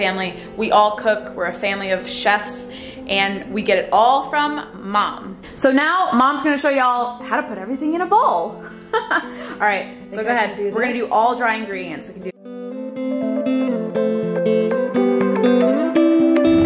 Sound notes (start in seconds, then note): 8.6 laughing; 13.2 upbeat music